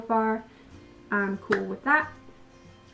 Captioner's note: hand clap